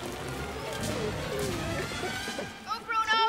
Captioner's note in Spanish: Gemidos